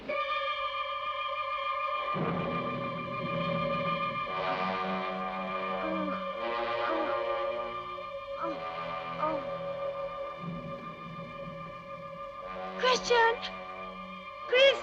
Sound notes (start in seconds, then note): 0.2 suspenseful music; 4.7 Brigitte groaning